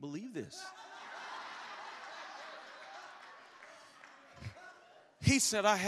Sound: congregation laughs

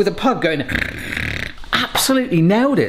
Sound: grunts

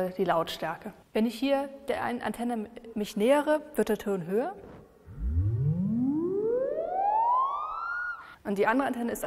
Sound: pitch rises gradually

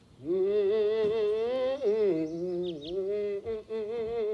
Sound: wilder humming

